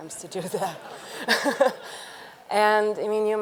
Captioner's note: audience laughing; laughs